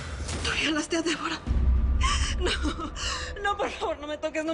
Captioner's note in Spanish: Solloza